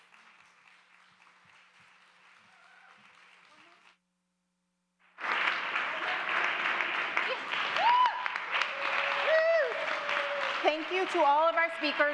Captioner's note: cheers and applause